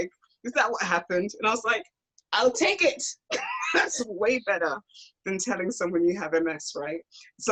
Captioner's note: laughs